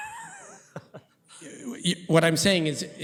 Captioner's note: laughing